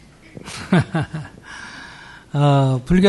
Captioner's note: laughter